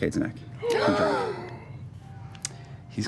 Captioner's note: gasping